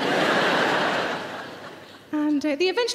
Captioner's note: audience laughing